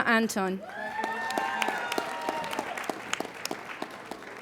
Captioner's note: applauding